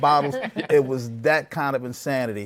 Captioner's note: laughter